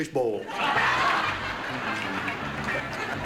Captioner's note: laughter